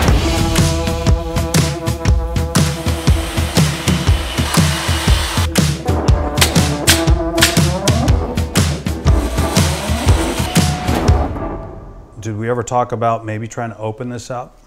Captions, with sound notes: (high energy music) (high energy music) (saw whirring) (nail gun popping) (saw whirring) - Did we ever talk about maybe trying to open this up?